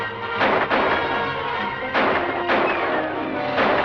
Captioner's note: gunshots